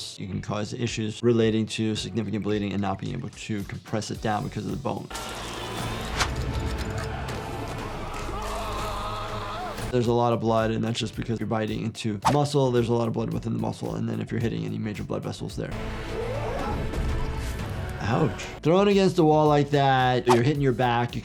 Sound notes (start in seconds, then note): 5.1 ominous music; 5.3 man yelling; 15.7 ominous music